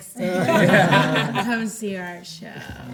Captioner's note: everyone laughs